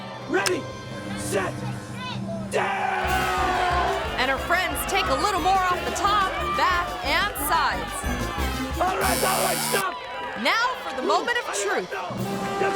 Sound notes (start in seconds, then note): 1.5 yelling; 2.6 crowd cheering